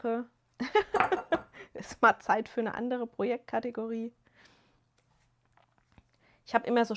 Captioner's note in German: gelächter